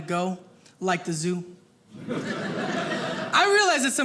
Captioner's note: audience laughing